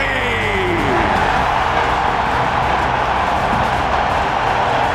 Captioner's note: crowd cheers